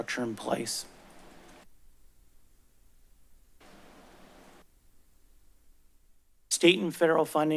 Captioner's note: silence